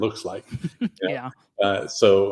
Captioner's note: chuckles